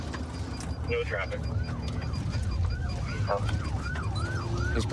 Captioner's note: sirens wailing